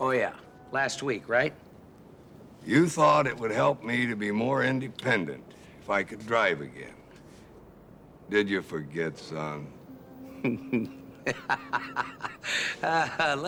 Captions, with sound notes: Oh, yeah. Last week, right? You thought it would help me to be more independent if I could drive again. Did you forget, son? (laughing)